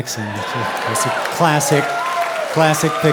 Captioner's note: audience cheering